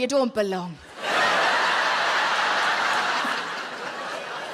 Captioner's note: audience laughs